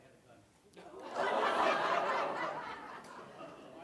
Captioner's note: laugh